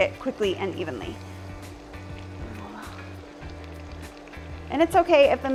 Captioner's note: bread sizzling